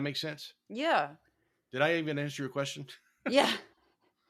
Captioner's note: laugh; laugh